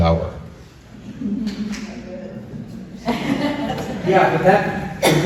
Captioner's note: soft laughter